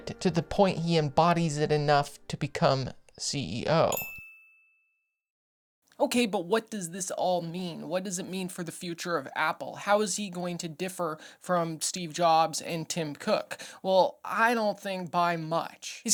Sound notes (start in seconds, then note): 3.9 bell dings